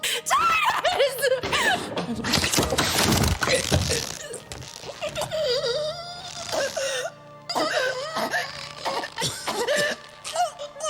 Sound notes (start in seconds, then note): 0.3 screaming; 2.3 necks snapping, suffocating noises